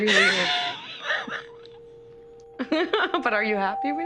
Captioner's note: laughs